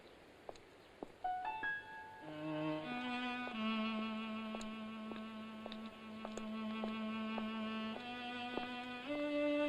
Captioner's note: footsteps; foreboding music